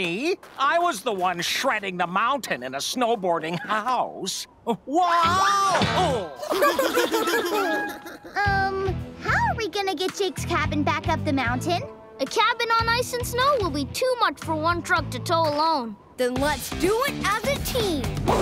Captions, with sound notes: I was the one shredding the mountain in a snow boarding house. Whoa! [laughing] Um... How are we gonna get Jake's cabin back up the mountain? A cabin on ice and snow will be too much for one truck to tow alone. Then let's do it as a team!